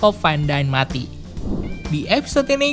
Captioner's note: transition sound